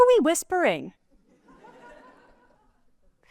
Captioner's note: laughter